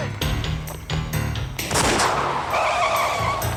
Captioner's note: gunshot; brakes screeching